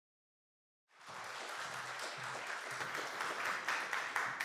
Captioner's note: applause